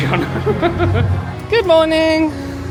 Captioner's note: men laugh